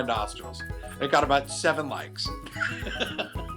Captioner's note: laughs